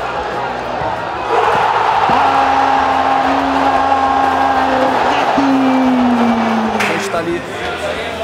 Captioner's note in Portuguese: gritos de gol